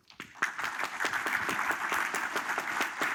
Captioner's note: applause